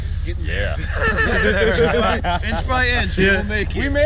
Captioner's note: group laughing